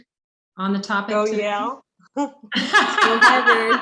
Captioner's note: laughter